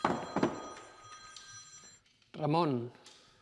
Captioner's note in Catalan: telèfon: truquen